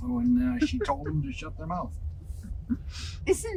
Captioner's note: laughs; laughs